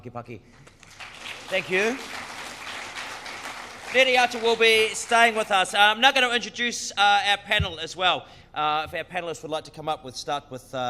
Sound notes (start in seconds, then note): 1.0 speaks in foreign language; 2.5 crowd applause